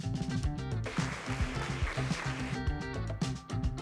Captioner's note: applause